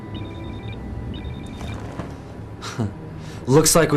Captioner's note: alarm